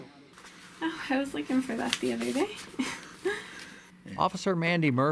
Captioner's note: laughs